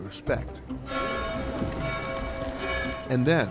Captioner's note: clock bells toll